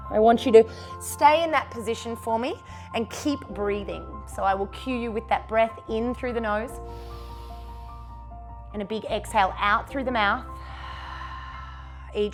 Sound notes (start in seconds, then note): 6.9 inhales; 11.5 exhales